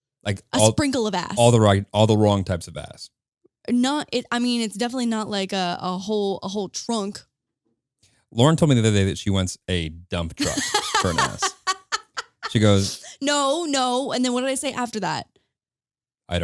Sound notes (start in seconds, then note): 10.4 laughing